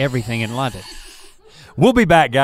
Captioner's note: Rhett hisses